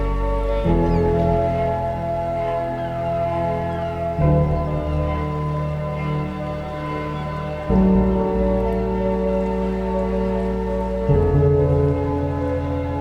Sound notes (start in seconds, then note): 0.7 seagulls cawing; 5.9 soft music continues